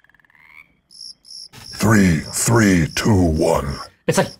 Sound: croaking

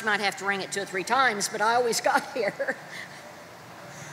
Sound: chuckles

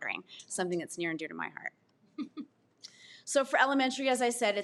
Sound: laughs

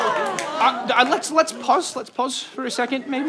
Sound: applause

